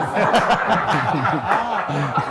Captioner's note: men laugh